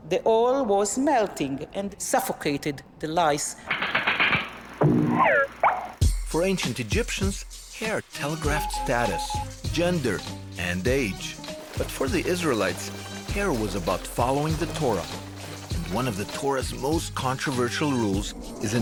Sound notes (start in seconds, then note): 3.6 clacking; 4.8 cartoonish popping